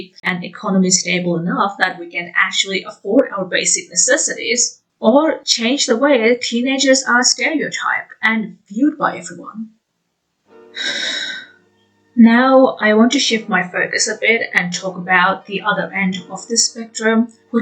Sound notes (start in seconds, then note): 10.8 sigh